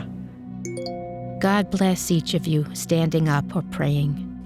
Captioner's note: phone chimes